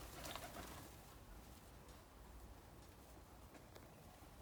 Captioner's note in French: Bruits d'ailes d'oiseaux